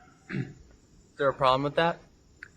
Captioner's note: Destin clearing throat